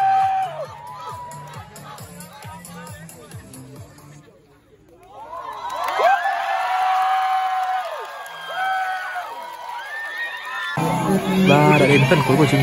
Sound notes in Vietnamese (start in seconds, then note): 2.6 Vỗ tay